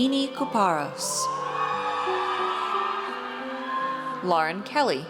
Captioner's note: audience cheers